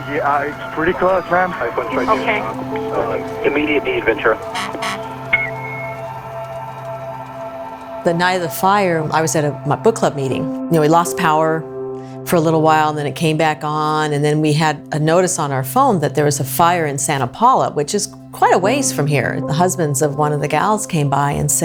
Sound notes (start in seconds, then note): 4.3 honking; 6.2 ambient music